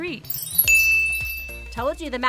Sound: chimes ding

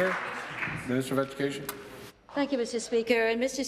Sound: applause

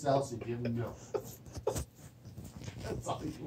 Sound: laughter

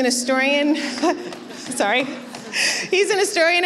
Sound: laughing

